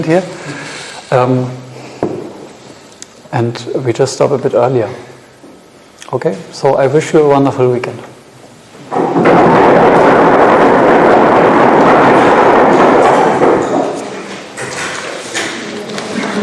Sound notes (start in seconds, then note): 9.4 audience applauding; 12.3 thunder rumbling; 15.3 audience chattering